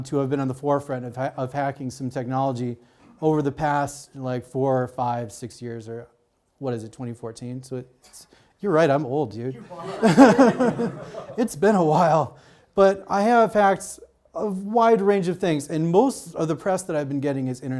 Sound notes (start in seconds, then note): 9.6 audience laughs